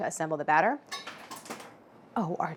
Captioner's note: something clanging off-screen